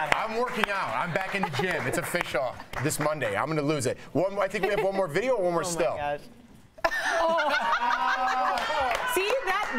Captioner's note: laughter